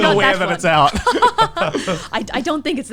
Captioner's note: laughs